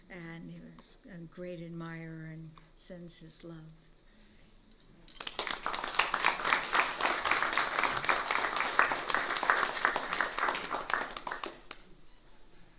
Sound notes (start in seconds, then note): 5.1 applause